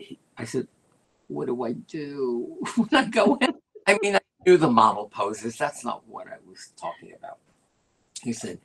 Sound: laughter

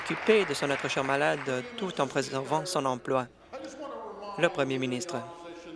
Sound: applause

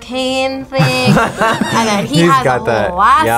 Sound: both laugh

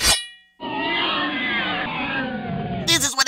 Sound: pained roars

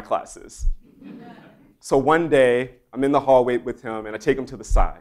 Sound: laugh

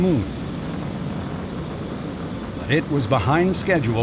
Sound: rocket engine roaring

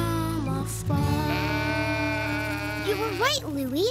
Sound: sheep baaing

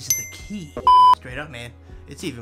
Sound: bell dinging; beeping

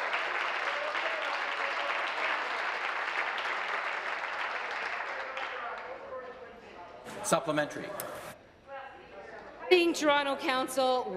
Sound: applause

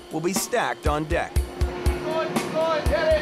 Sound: machine humming

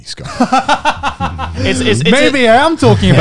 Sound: laughing

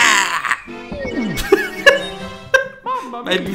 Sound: laughs

